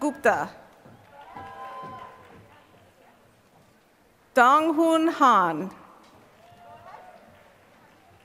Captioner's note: applause